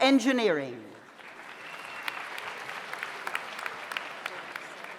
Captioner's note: audience applauds